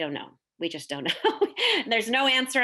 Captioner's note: laughs